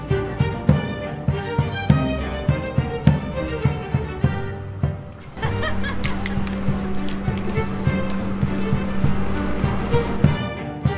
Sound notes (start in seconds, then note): 5.1 laughs